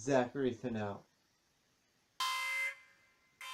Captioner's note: alarm sounds